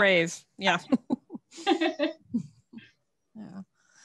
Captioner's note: laughter